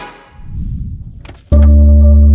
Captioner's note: scene whooshing; hypnotic music